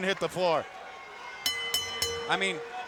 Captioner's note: bell dinging